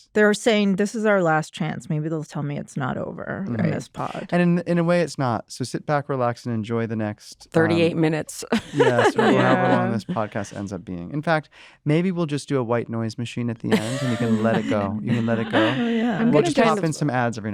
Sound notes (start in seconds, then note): 8.5 laughs